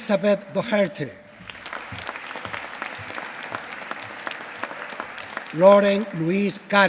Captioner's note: applause